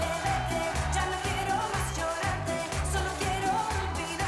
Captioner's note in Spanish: palmadas al compás